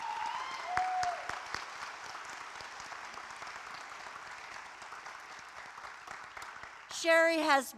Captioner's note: applause